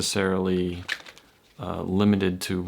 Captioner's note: card cutting gently